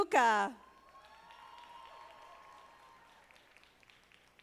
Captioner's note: audience applauding